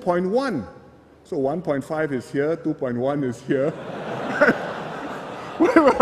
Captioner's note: laughter